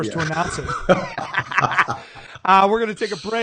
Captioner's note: laughing